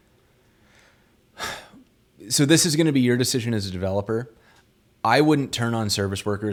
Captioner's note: sighs